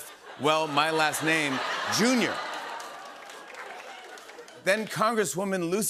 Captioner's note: laughter